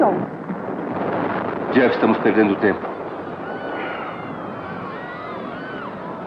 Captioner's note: explosion; people Screaming